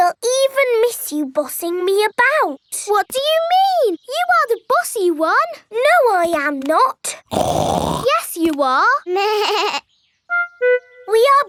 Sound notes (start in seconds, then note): 7.2 snorts; 9.2 bleats